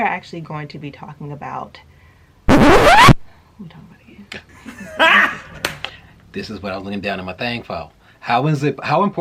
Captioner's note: record scratch